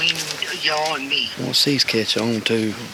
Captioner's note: voice On Walkie